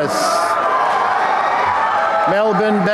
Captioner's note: applause and cheering